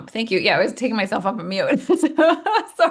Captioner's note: laughing